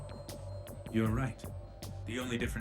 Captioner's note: over comms